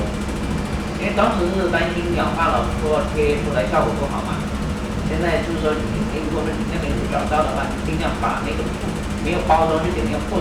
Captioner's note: speaking in Mandarin